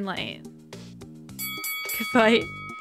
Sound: bell dinging

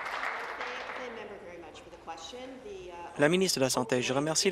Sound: applause

